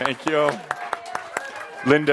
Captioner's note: some applause